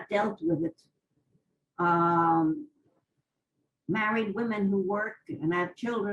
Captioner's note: pauses for 3 seconds